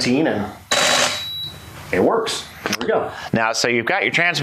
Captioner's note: mechanical shutter